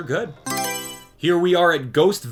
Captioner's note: Mario Selection Sound